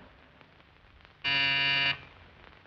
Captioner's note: buzzer